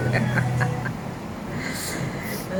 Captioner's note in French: rires